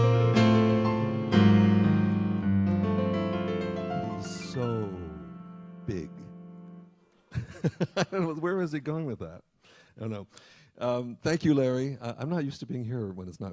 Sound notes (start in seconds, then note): 0.0 lively piano music; 7.4 laughing